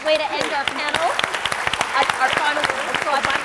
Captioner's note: applause